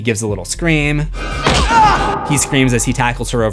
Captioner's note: screams